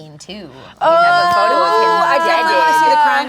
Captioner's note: woman in white shot-top shouting